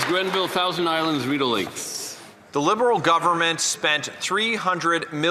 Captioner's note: applause